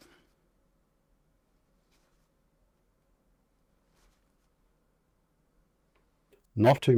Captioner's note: silence